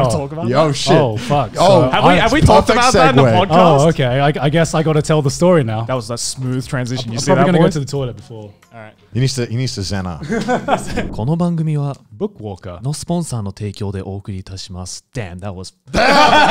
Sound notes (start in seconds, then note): 12.0 foreign language; 13.9 laughing